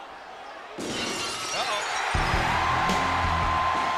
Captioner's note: glass shatters; upbeat music; audience cheers